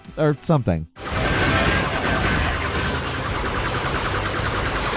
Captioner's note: gun firing